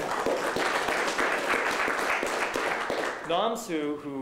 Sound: applause

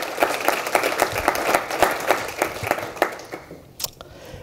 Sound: applause

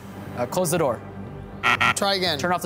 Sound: buzzer sounding

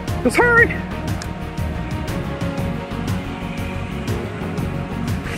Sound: jubilant marching

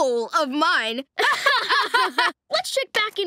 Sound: laughing

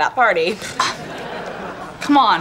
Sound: laughing

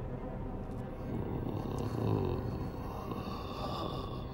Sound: Luther grumbling

